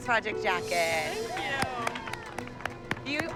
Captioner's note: applause and cheering